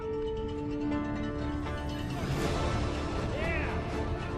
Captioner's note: bell ringing